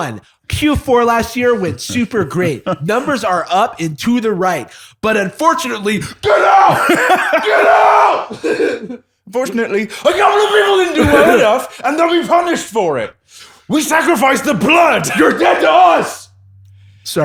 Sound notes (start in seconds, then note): 6.1 shouting; 14.9 shouting